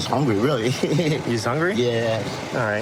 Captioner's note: laughing